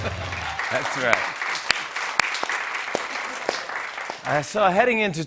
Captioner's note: applause